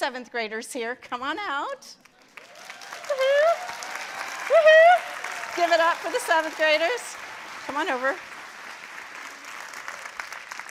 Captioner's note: applause